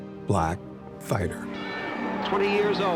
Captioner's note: bell rings